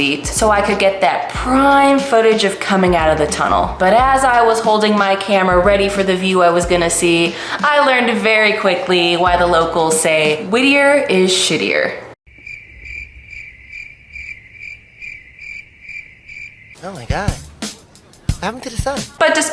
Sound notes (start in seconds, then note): 12.2 crickets